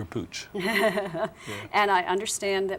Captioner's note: laughs